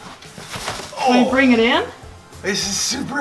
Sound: groans

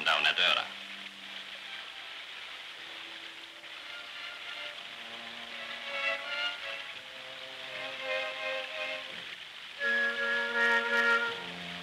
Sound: water rushing

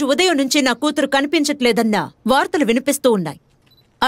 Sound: none

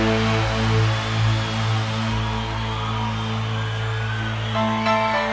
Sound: audience cheering; piano music

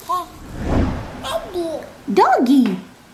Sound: baby talk

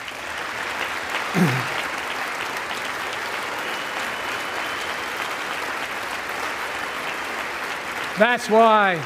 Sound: applause

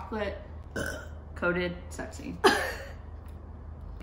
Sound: burps

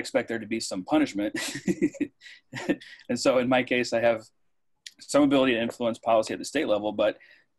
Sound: laughs

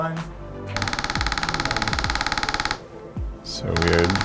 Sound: machine clicking

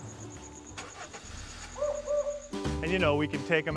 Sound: crickets chirping; car starts

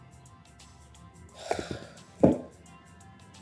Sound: sighs

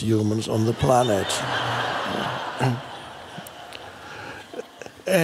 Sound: crowd laughs

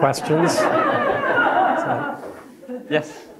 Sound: audience laughing

